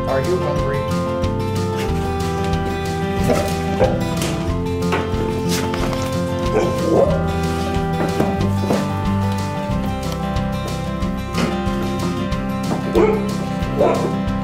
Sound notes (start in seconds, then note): 0.0 light music; 3.4 barking